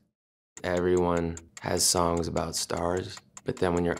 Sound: clock ticking

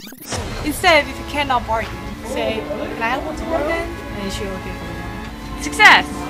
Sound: speaks in Korean

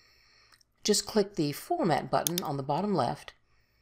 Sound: mouse clicks

